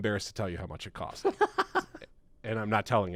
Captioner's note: chuckling